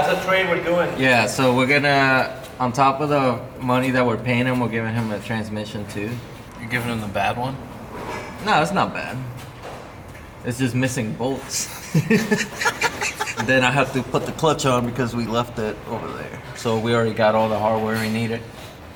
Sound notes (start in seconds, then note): 11.6 both laugh